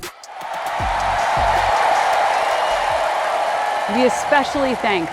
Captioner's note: audience cheering